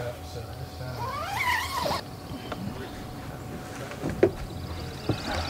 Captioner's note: tent zipping closed